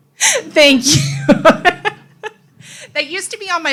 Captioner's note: laughs